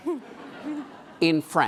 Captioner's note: laughing